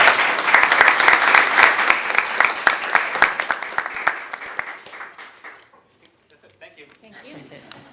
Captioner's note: applause